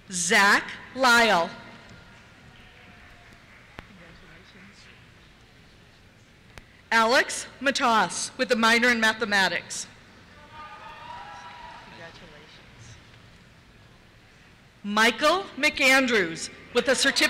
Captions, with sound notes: Zach Lyle. (applause) Alex Matos, with a minor in Mathematics. (cheers) Congratulations. Michael McAndrews, with a certificate